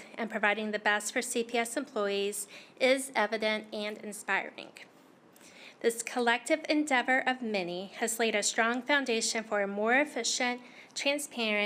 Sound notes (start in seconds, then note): none